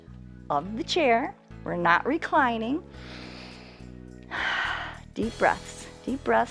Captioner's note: inhales and exhales